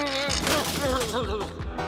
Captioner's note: straining and muttering